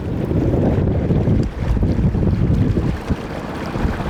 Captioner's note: loud wind gusts